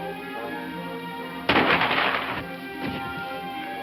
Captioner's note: more gunshots